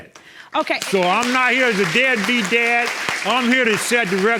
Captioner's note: audience clapping